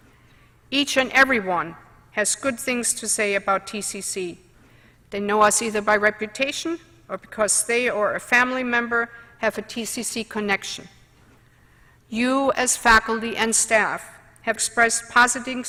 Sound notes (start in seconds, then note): none